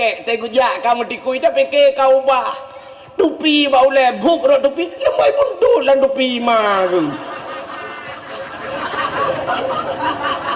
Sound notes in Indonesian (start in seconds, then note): 6.8 tertawa